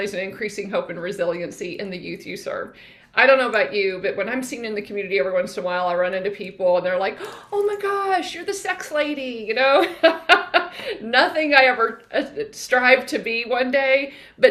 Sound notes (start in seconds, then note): 9.6 laughing